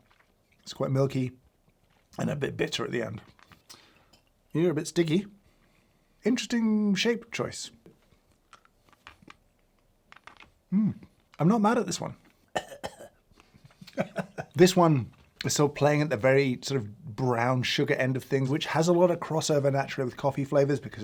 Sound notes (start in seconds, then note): 12.5 coughs; 13.8 laughs